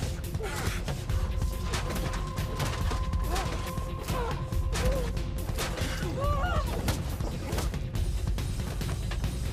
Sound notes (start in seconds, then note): 0.1 people groaning; 0.7 blows thudding; 6.9 tense music